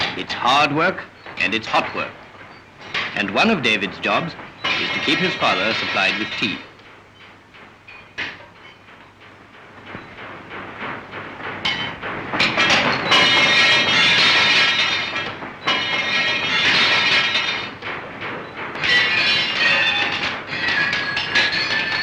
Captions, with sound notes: It's hard work and it's hot work and one of David's jobs is to keep his father supplied with tea. [clanging]